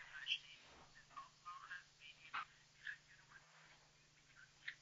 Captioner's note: speaking Swiss German